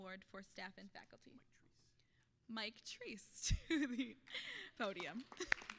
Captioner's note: whispering; laughing